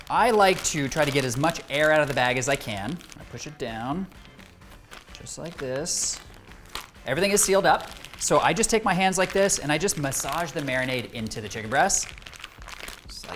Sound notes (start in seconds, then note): 6.5 bag slaps